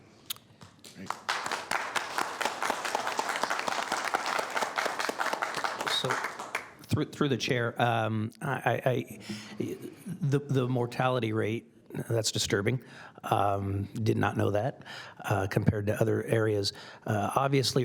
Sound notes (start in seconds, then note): 5.4 applause